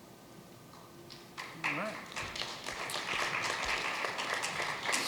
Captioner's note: applause